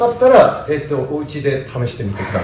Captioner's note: laughs